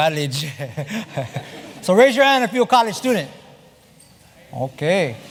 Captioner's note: laugh